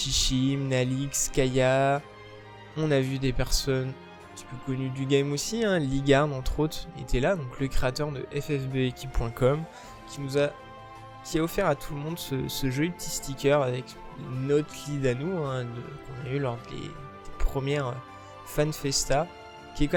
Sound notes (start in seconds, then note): 15.4 french